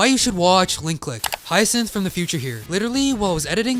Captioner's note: static noise